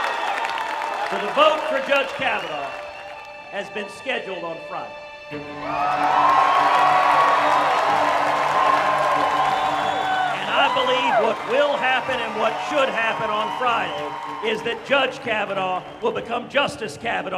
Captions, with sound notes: But a vote for Judge Kavanaugh has been scheduled on Friday. [CHEERING] And I believe what will happen, and what should happen on Frida is that Judge Kavanaugh will become Justice Kavanaugh